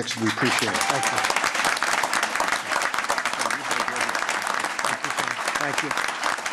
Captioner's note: applause